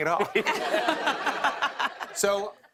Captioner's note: laughter